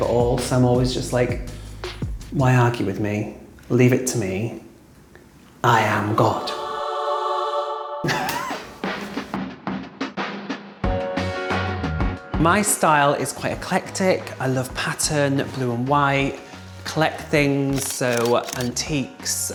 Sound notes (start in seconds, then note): 6.2 angels singing; 8.0 laughing; 10.6 chill music